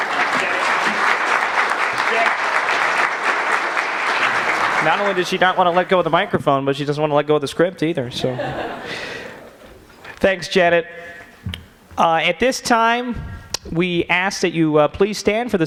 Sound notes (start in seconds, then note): 0.0 applause; 8.1 laughter